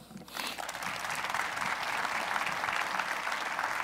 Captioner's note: applause